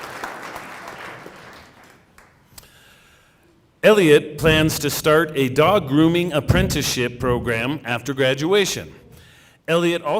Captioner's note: cheering and applause